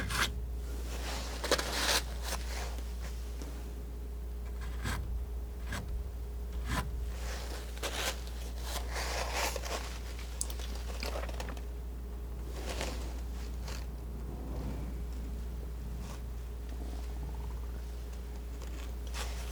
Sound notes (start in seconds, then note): 0.0 scratching; 6.5 scratching